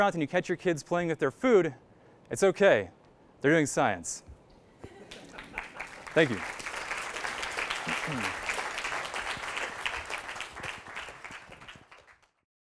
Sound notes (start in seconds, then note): 4.8 laughter; 6.6 applause